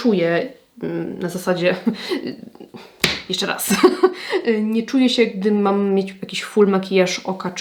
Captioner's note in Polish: śmiech